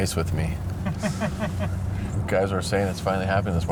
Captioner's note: laughs